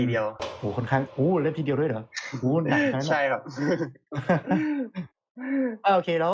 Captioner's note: laughs